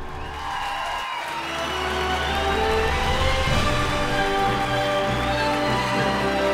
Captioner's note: audience applauding; bold orchestral music